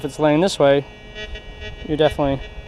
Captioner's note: detector beeps